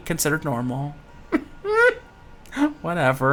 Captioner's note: giggles